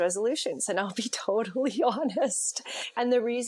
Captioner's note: laughs